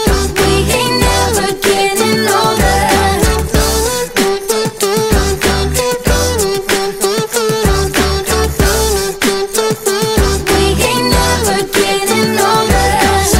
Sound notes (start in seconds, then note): 3.4 beatboxing